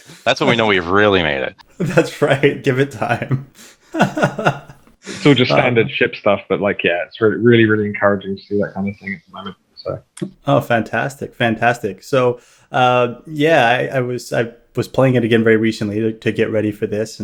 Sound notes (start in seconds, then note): 1.7 laughs